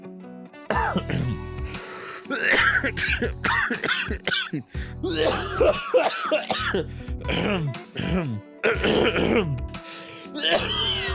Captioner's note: coughing